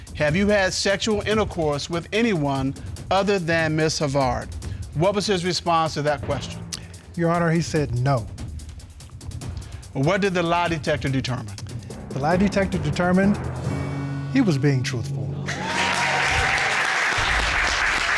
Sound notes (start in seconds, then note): 15.4 audience applauds, cheers